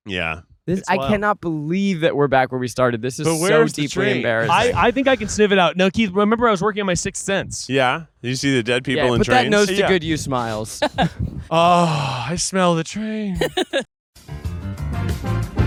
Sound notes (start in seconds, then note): 11.4 sighing